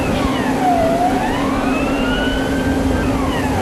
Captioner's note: emergency fire-alarms sounding